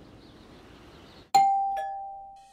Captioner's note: doorbell ringing